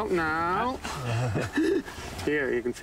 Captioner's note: they laugh